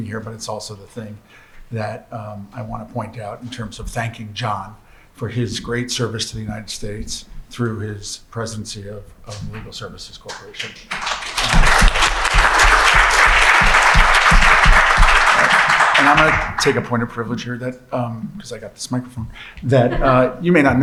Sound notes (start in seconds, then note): 13.0 applause